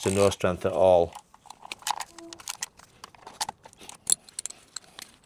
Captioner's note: sound of clip